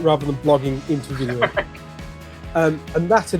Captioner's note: laughing